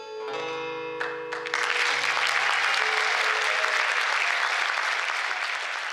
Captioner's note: applause